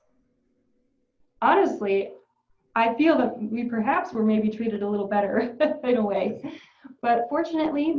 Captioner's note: laughs